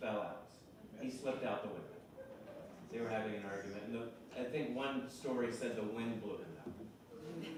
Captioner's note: off microphone